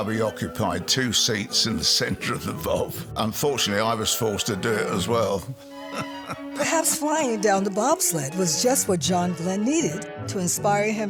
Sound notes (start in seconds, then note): 4.5 chuckles